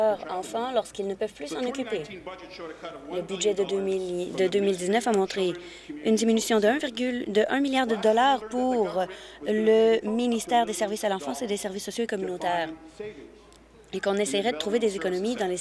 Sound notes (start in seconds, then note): none